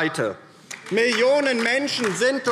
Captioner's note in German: Beifall DIE LINKE